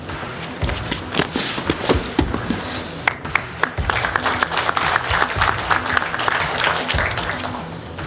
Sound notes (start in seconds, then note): 0.4 both thudding; 1.2 audience clapping